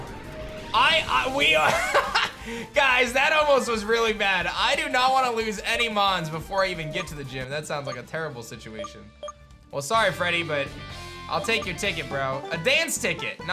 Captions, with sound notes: I, I... We are... (laughs) Guys, that almost was really bad. I do not want to lose any Mons before I even get to the Gym. That sounds like a terrible situation. Well, sorry, Freddie. But, I'll take your ticket, bro. A Dance Ticket.